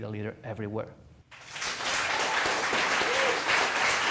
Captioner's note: applause